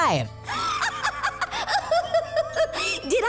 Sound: laughing

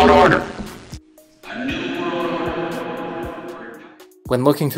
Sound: distorted Voice; distant Echo Voice

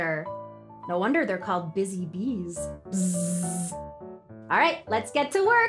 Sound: buzzes

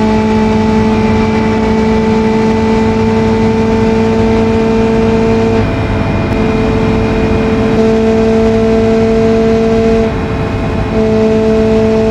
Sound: Ibishu 200bx car sound; ibishu 200bx car sound + truck sound + pigeon car sound

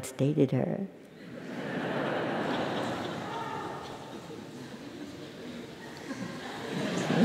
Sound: laugh

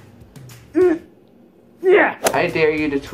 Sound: grunts

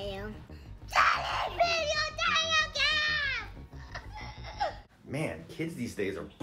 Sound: laughs

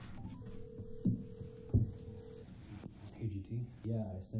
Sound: phone ringing

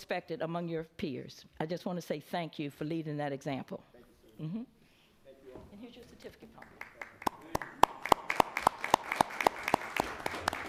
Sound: applause

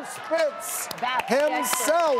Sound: audience cheering

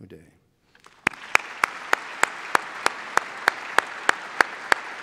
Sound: applause

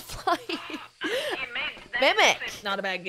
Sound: laugh

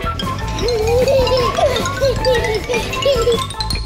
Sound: baby giggling

